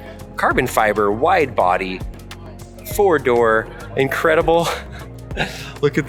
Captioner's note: chuckles